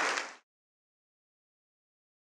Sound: applause

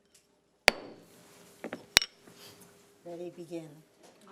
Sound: gavel knocking

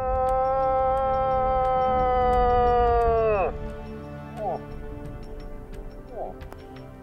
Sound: bellows

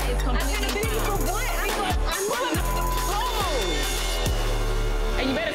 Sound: beep

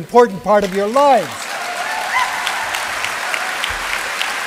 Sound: applause

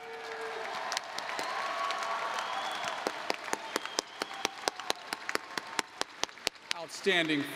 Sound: applause

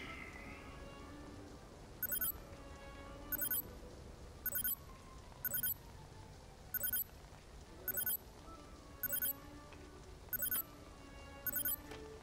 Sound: communicator beeping

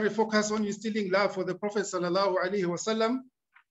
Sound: speaking arabic

